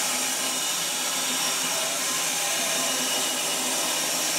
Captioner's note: saw whirring